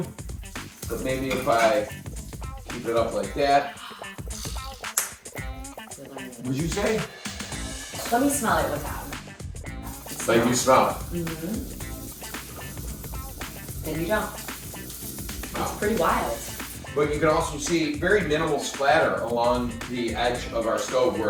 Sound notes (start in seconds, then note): 3.6 gasps; 4.4 Jeff snaps